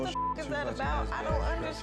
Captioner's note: beep